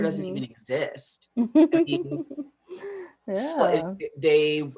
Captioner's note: chuckles